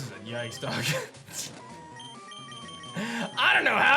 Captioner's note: giggles